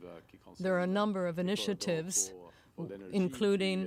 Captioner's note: speaking french